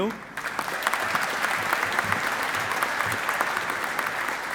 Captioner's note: audience applauding